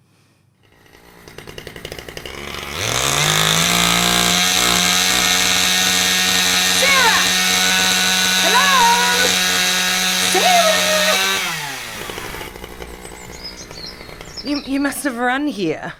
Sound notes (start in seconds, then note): 7.6 chainsaw grinds; 11.9 chainsaw winds down